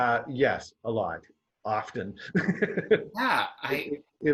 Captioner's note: laughs